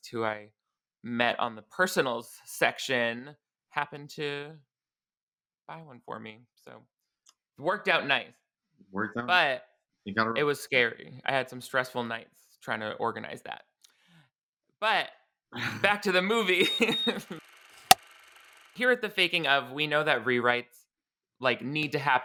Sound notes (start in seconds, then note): 16.4 beeping; 16.8 clapperboard claps